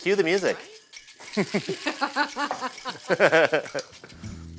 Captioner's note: laughter, maracas